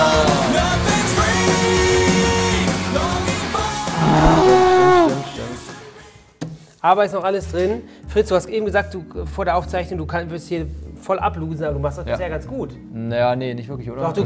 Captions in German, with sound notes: (Rockige Musik) (Stöhnen) Aber ist noch alles drin. Fritz, du hast eben gesagt, vor der Aufzeichnung, du würdest hier voll ablosen, du machst das bisher ganz gut.